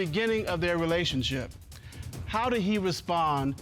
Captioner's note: none